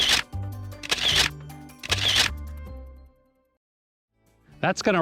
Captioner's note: camera shutter clicking